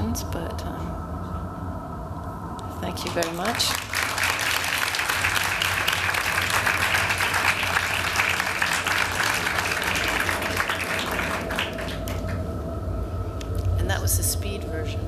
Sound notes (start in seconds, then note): 4.5 applause